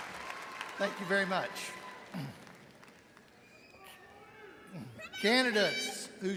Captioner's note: clears throat